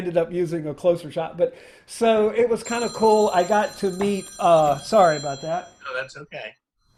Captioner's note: phone rings